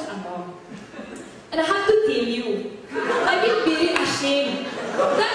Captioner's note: switches to Filippino accent